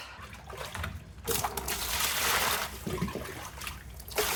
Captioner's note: pouring water